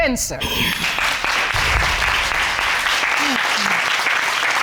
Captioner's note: audience applauding